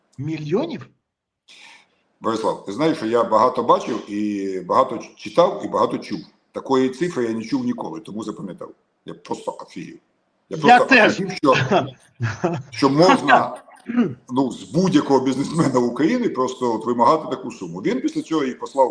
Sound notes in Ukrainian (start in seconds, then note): 12.2 сміх; 13.8 прочищення горла